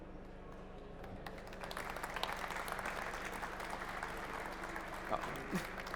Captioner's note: applause